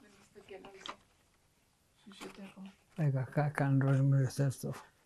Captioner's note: hebrew